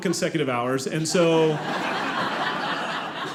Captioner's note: audience laughing